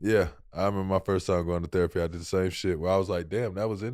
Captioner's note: none